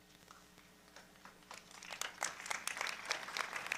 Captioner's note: applause